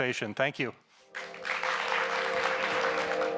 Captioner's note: audience members applauding; gentle electronic music